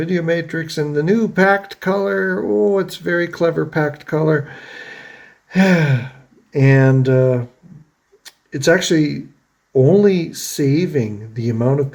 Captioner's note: sighs